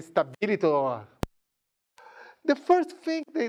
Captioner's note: speaking in a foreign language